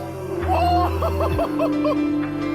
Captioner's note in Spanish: grita y ríe